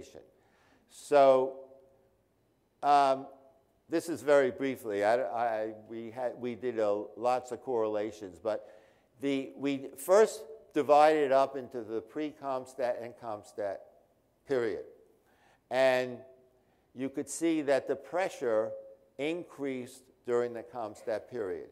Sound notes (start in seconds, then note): none